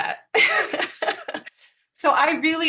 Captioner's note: laughs